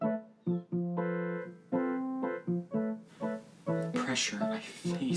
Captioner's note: none